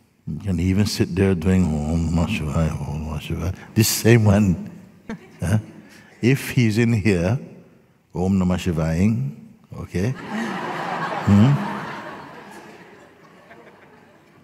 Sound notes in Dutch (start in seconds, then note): 10.1 gelach